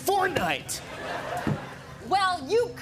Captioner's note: laughter